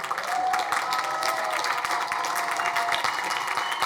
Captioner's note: crowd cheering